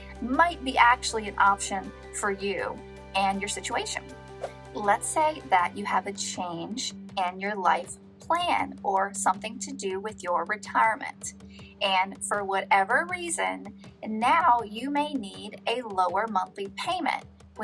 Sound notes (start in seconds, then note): 4.4 air whooshing